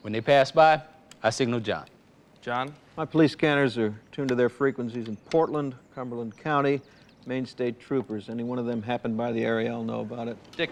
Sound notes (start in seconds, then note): none